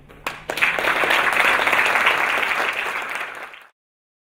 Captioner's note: audience clapping